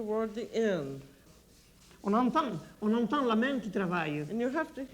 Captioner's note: speaking French